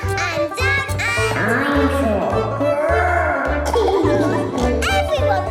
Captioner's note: laughing